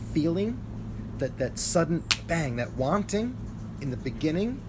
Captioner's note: snaps fingers